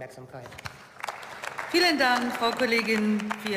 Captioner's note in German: Beifall